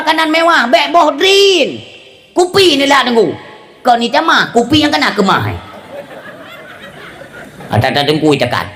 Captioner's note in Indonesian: tertawa